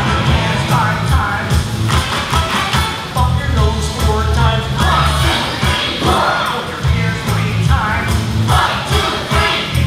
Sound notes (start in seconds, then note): 1.9 clapping